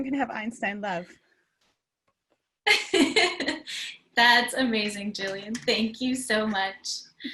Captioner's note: laugh